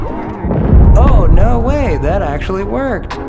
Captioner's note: boom